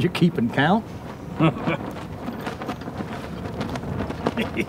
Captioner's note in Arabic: يضحك